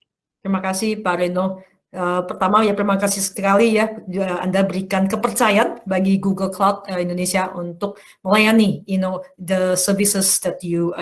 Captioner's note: non-english speech